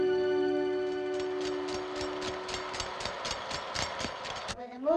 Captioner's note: empty Reel Clicking